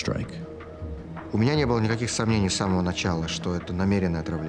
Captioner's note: Vladimir speaking Russian